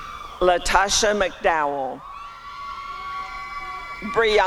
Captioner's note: applause and cheering